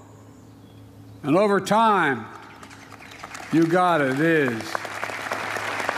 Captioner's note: applause